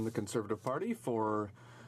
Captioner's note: speaking in french